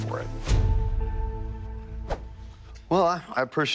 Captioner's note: swiping